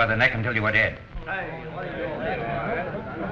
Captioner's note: chattering